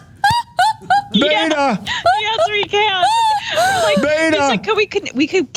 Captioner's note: laugh